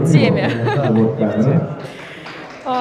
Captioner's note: laughing